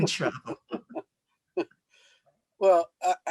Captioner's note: laughter